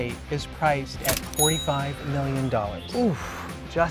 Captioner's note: cash register dings